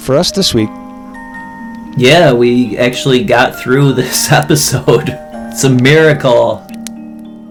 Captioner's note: laughs